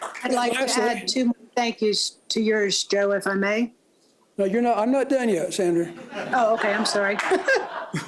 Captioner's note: applause